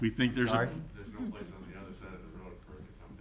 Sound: faintly speaking

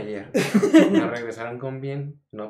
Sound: laughing

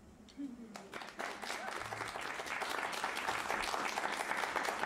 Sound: cheers and applause

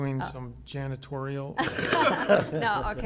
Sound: laughter

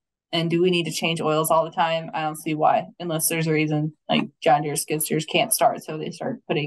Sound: none

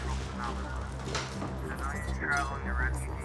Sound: radio broadcasting; more robotic beeps heard; radio broadcasting

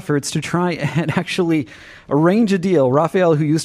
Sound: laughter

